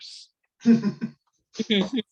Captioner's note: laughs